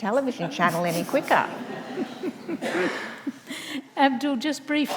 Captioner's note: audience laughs